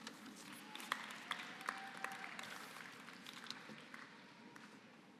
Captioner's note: applause